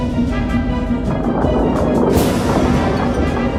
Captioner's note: bones rumbling